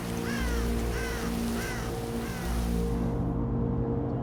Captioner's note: bird crowing